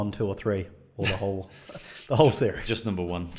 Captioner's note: chuckles